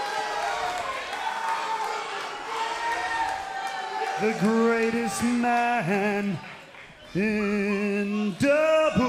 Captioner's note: cheers & boos